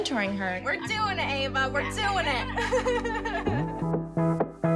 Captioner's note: laughs